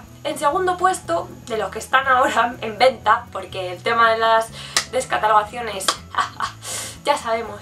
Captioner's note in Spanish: risa sarcástica